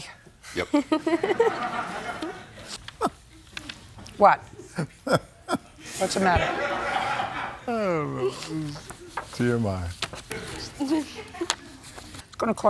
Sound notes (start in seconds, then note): 0.6 laughter; 4.5 laughs